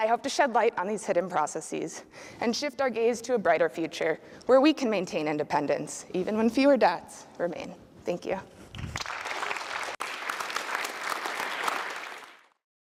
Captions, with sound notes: I hope to shed light on these hidden processes, and shift our gaze to a brighter future, where we can maintain independence, even when fewer dots remain. Thank you. (audience applause)